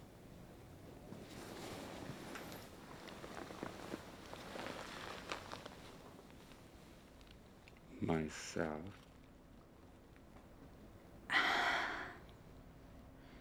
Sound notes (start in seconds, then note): 2.9 footsteps; 11.3 sighs